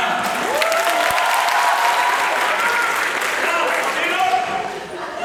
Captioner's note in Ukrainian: Оплески